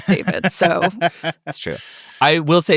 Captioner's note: laughing